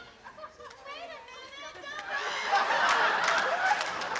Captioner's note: laughter